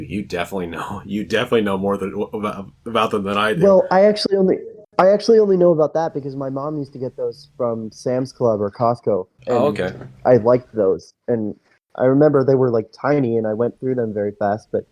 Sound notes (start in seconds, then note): 2.3 stutters